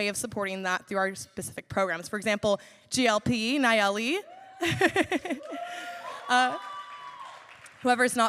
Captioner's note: laughs; cheers